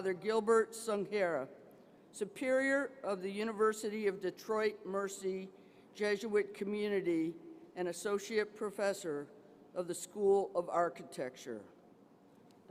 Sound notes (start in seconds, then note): none